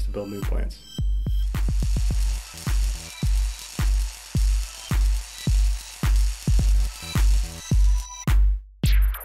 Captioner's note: welding noise